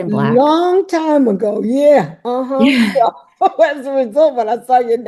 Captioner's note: chuckles